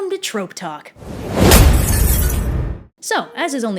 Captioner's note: rushing towards viewer, then glass shatters